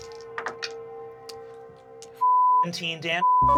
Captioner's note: rolls dice